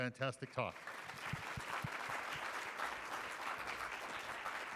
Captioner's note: audience applauding